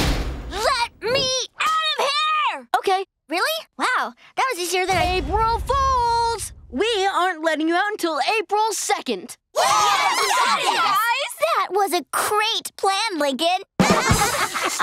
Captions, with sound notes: - Let me out of here! - Okay. Really? Wow. That was easier than-- April fools! We aren't letting you out until April 2nd. [cheering] That was a great plan, Lincoln. [laughing]